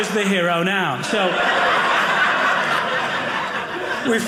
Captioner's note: audience laughing